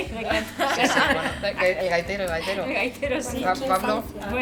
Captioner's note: laughs